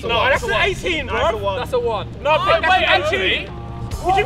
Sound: arguing amongst themselves

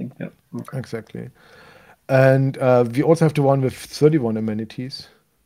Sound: none

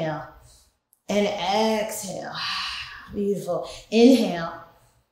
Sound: sighs

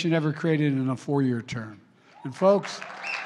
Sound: applause

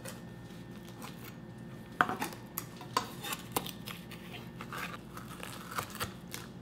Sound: knife scraping; crunching

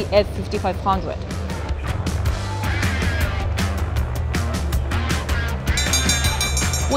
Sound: crowd shouting; upbeat rock music; bell dinging

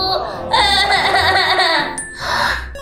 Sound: crying

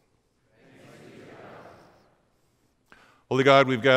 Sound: crowd speaking

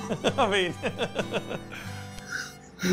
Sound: laughing

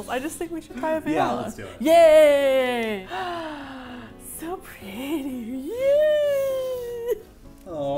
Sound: gasps

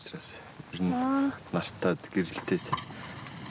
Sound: Mongolian spoken audio

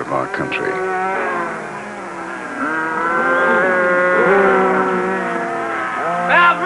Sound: cattle mooing

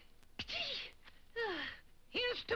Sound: sighs; sneezes

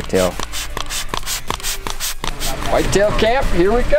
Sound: liquid spraying

